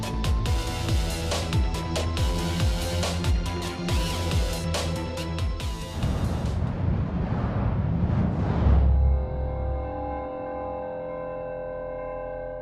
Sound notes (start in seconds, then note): 5.9 logo booming